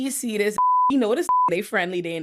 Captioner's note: beep